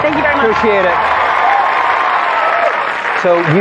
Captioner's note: cheering